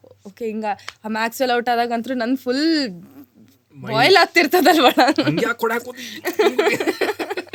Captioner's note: laughs